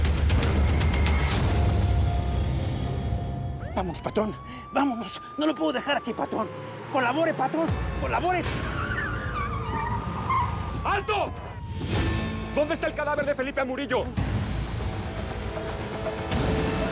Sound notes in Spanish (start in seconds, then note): 4.7 sirenas; 8.7 sirenas; 8.7 sonido de autos; 11.8 chirrido de gomas